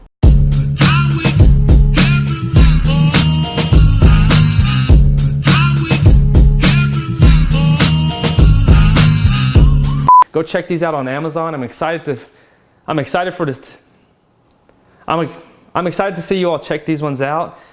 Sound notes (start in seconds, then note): 10.0 beeps